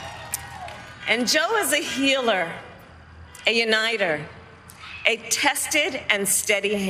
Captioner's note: cheers and applause